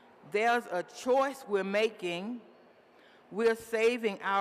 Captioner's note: none